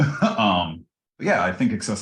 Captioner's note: laugh